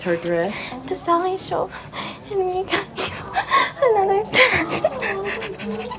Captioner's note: crying